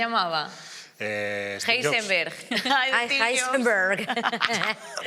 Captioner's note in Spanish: con acento inglés